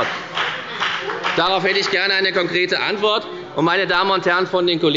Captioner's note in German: Beifall bei der FDP – Zurufe von der CDU